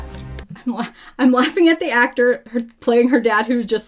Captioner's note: laughs